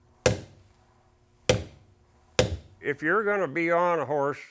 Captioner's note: hammering on leather